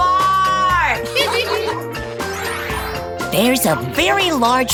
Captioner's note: giggling